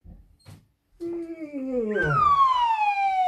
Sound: yawn

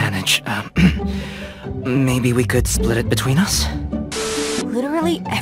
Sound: ahem

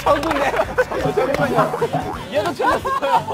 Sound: haha

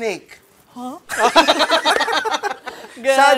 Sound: laughter

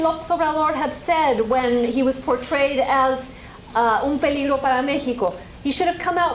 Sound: spanish

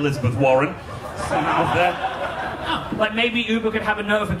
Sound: audience laughing

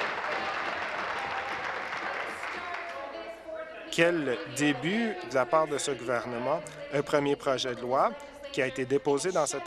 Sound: applause

